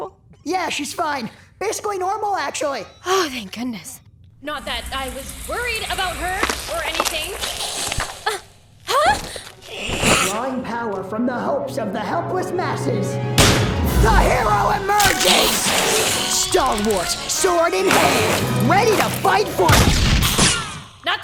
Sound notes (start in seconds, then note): 3.2 whispers; 8.8 gasps